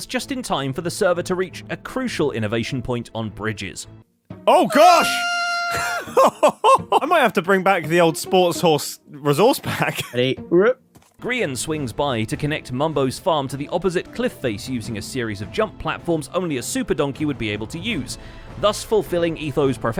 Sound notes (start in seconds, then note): 4.4 Grian screams; 4.6 laughs